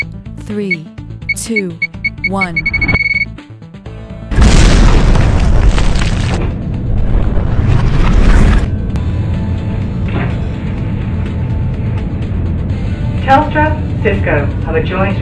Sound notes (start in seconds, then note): 4.3 blast